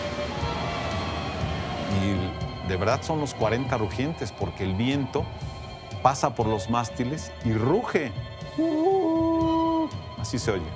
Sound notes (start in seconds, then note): 0.2 in Spanish; 6.8 howls softly